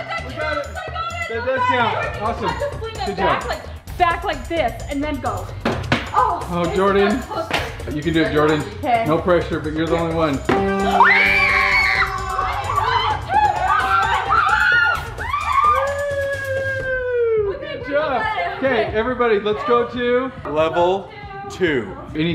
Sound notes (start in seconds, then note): 10.6 victory music; 11.0 cheering